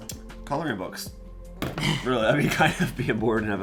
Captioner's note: laughs